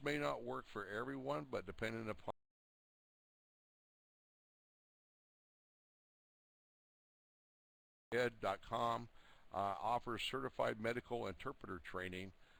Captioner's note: audio drops